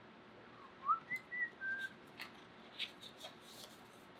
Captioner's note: whistles